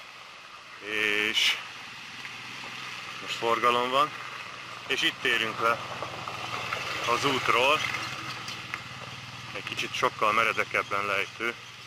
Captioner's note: traffic